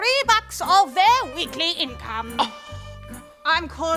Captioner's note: scoffs